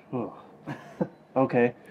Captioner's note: sighs and chuckles